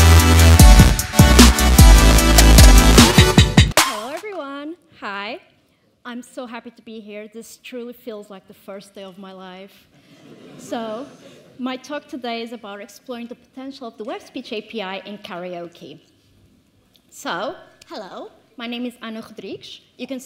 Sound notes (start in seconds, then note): 10.0 audience laughs